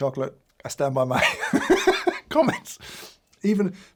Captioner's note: laughs